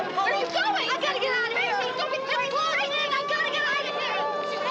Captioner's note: none